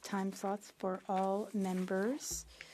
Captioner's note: speaking French